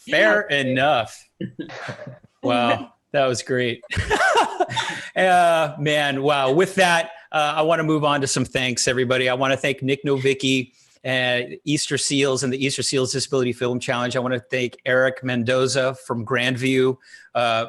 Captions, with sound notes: Fair enough. Wow, that was great. (laughing) Man, wow, with that, I wanna move on to some thanks, everybody. I wanna thank Nic Novicki, and Easterseals, and the Easterseals Disability Film Challenge. I wanna thank Erick Mendoza from Grandview for,